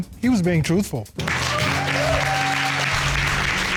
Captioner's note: cheers and applause